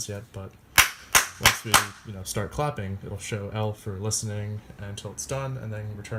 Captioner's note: clapping